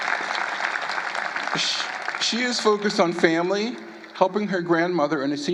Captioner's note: applause